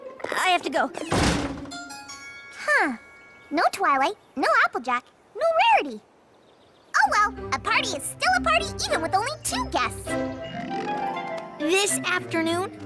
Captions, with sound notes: I have to go. [ Creak! ] Huh. No Twilight, no Applejack, no Rarity. Oh, well. A party is still a party, even with only two guests. This afternoon?